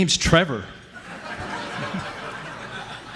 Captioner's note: laughing